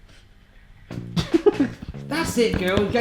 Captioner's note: laughs